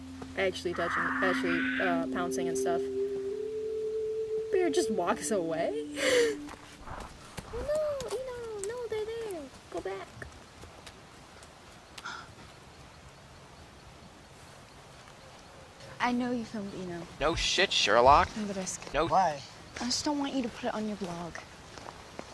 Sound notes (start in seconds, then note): 5.9 wheeze; 7.4 baby voice